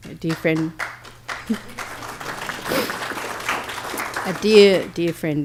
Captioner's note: applause